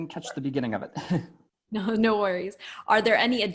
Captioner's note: laugh